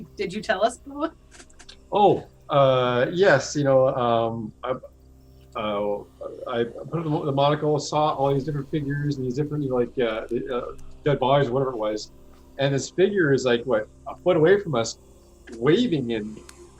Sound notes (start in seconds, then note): none